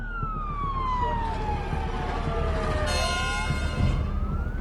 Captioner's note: sirens blaring